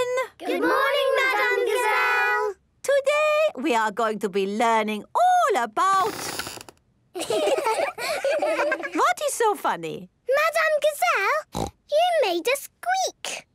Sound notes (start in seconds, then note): 6.2 squeaks; 7.2 laughing